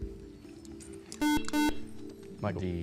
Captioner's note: soft music; beep